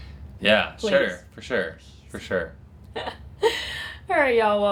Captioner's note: laughs